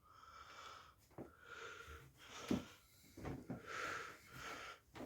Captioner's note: person breathing softly